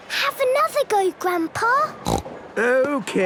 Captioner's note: snorts